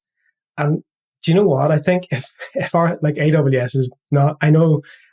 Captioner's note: laugh